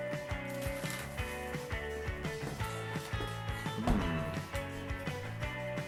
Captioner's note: crunching and chewing sounds